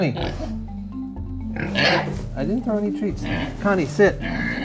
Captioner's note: oinks